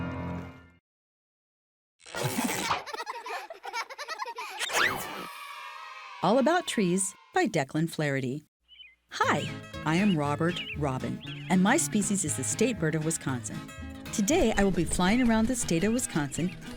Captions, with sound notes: (children laughing) All About Trees by Decklin Flarity. Hi, I am Robert Robin and my species is the state bird of Wisconsin. Today I will be flying around the state of Wisconsin